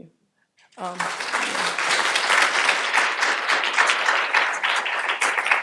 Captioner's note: audience applauding